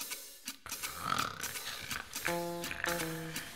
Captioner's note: snoring